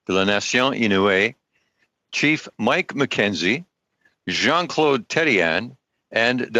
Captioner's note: speaking French